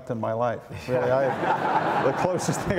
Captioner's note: audience laughs